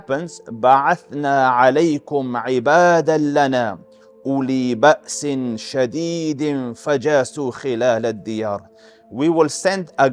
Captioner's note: Arabic